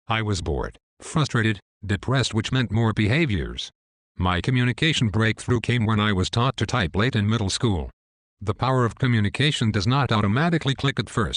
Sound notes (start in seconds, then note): none